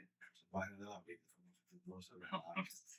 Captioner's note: speaking In Foreign Language